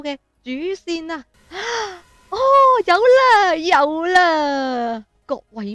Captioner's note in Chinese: 吸气